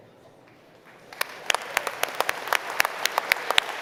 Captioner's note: applause